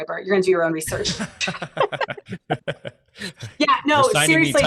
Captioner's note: laughter